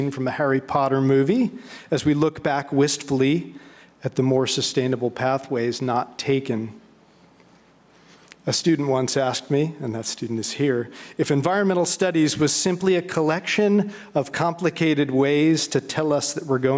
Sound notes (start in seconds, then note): none